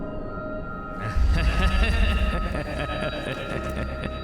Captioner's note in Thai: เสียงหัวเราะอันชั่วร้าย